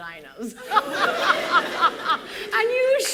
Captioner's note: laughter